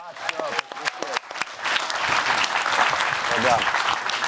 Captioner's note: cheers and applause